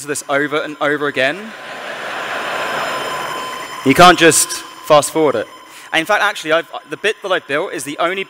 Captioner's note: laughter